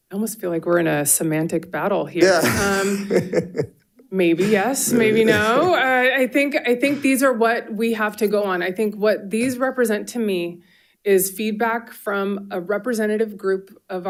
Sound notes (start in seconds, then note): 2.2 participants laughing